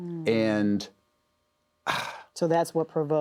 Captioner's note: exhales